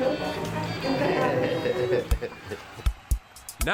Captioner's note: laughs